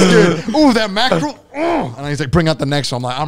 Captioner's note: grunting